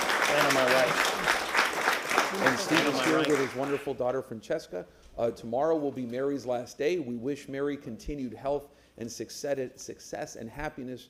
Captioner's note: applause